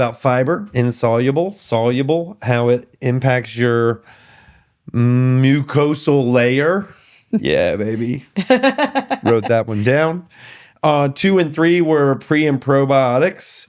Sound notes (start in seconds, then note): 7.3 laughing